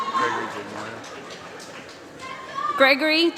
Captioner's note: applause